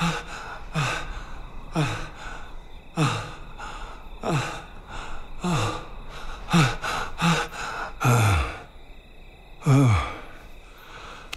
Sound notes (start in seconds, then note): 2.9 panting slows; 7.9 sighing heavily